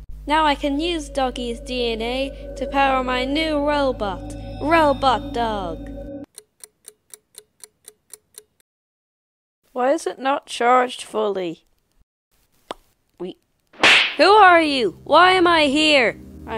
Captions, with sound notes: Now, I can use Doggy's DNA, to power my new robot, "Robot Dog!" Why is it not charged fully? Grrrrr (Smack) Who are you?! Why am I here?!